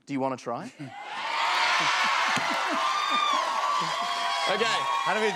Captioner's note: cheers and applause